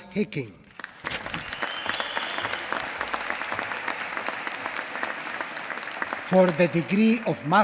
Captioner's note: applause